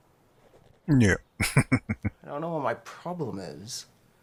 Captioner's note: chuckling